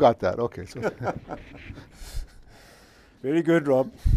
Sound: laughs

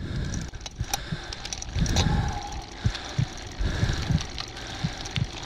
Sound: heavy breathing

